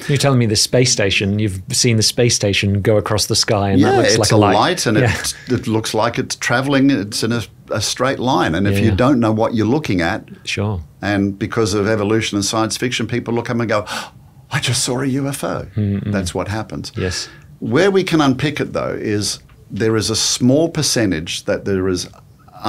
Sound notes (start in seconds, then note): 14.5 gasps